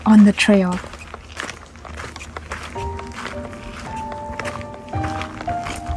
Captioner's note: footsteps on gravel